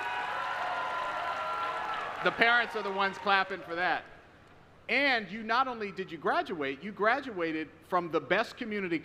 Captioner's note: applause